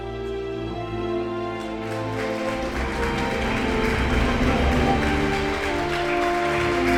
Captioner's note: uplifting music; congregation applauding